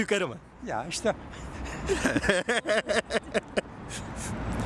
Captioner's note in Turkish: kahkaha sesleri